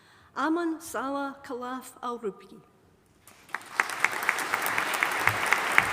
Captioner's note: audience applauding